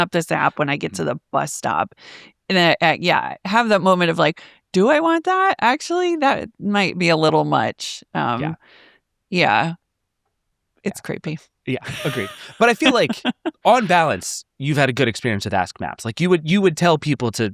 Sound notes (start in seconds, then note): 11.8 laughs